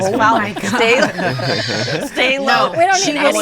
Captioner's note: all laughing